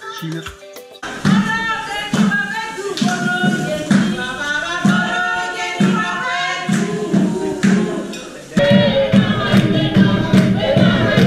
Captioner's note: chants